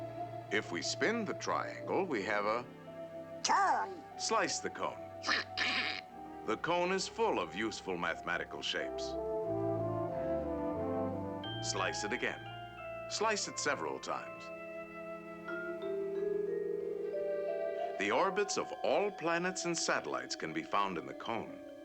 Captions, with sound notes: lf we spin the triangle, we have a... -DONALD: Cone! -Slice the cone. (DONALD CHUCKLING) SPIRIT: The cone is full of useful mathematical shapes. Slice it again. Slice it several times. The orbits of all planets and satellites can be found in the cone.